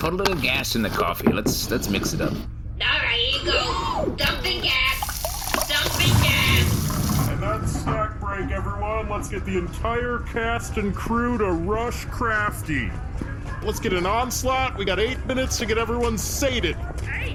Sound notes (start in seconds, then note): 4.8 sound of gas dumping into the coffee